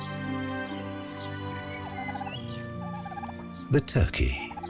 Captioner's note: turkey gobbling